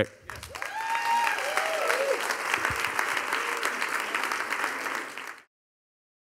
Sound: audience applauding; audience cheering

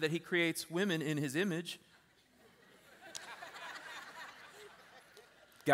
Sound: laughter

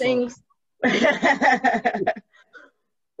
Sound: laughs

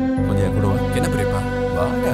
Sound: none

